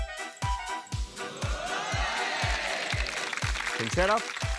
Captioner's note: cheering, applause